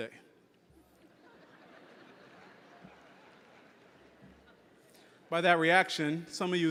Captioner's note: audience laughing